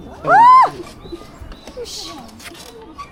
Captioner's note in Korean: 비명